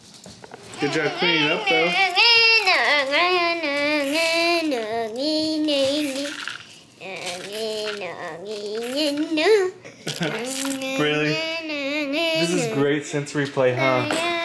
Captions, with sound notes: Good job cleaning up though. (baby hums) Braylee, this is great sensory play. Huh?